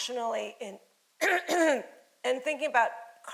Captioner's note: throat clearing